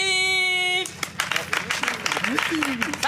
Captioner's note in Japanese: 拍手